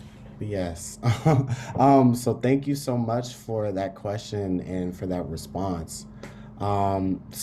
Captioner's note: laugh